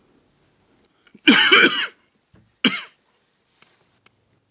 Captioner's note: coughing